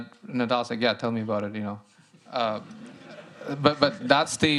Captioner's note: laughter